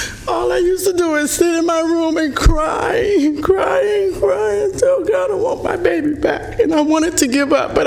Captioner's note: speaking emotionally